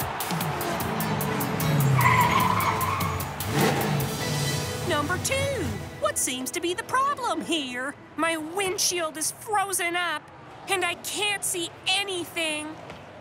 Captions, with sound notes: (tires screeching) - Number Two, what seems to be the problem here? - My windshield is frozen up, and I can't see anything.